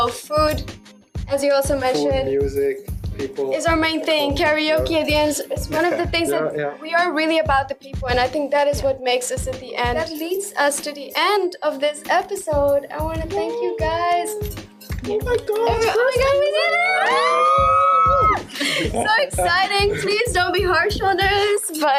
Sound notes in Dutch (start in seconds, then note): 15.8 gillen